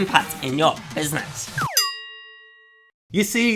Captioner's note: bell chimes